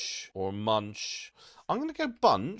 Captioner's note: blank Audio